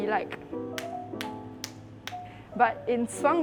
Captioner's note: claps in demonstration